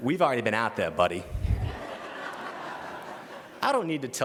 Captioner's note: laughter